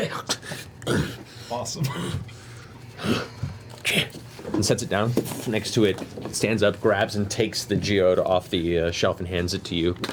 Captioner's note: grunts